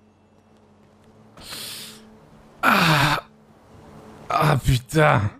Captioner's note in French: Dona gémit